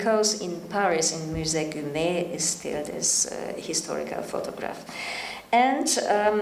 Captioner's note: speaking in French